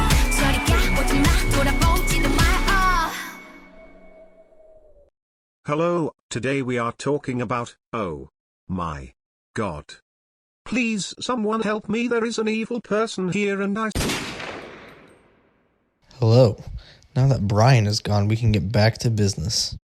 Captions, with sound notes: Hello, Today we are talking about... Oh. My. God. PLEASE SOMEONE HELP ME THERE IS AN EVIL PERSON HERE AND I- *BANG*-- Hello Now that Brian is gone, we can get back to business